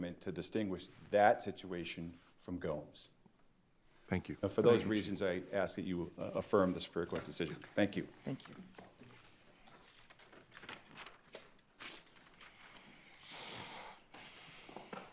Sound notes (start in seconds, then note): 10.4 papers rumpling